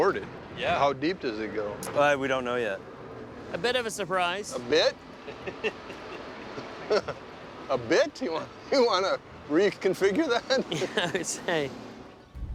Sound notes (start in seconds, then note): 5.2 chuckling; 10.0 laughing